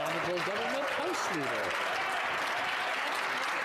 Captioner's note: some Applause